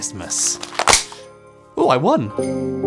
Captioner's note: snaps